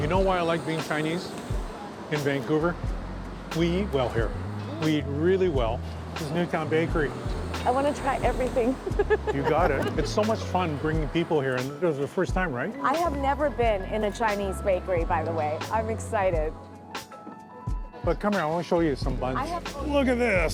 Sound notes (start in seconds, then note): 8.4 laughs